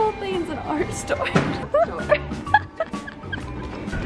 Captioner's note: both laughing